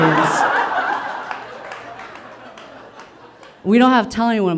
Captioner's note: audience laughing